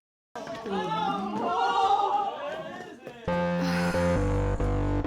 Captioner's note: everyone chatters; upbeat music